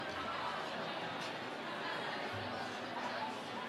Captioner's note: crowd chattering